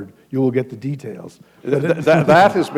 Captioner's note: laughter